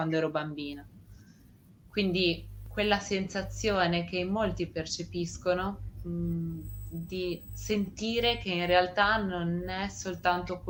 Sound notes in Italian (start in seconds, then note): none